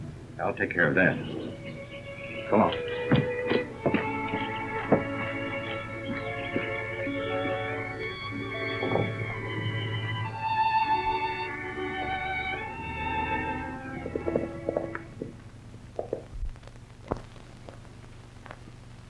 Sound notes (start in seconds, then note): 4.7 gentle music; 14.1 hooves clatter